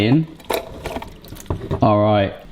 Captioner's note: pasta plopping